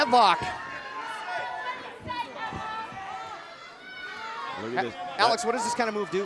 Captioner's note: crowd shouting